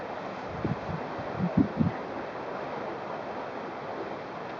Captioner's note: sound of river rushing